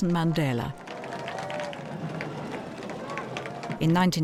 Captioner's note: crowd applauding